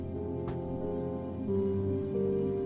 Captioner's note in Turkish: Kapak kapanma sesi